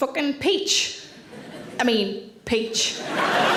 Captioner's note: audience laughing